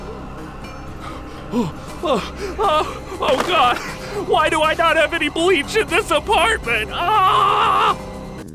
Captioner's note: panics; screams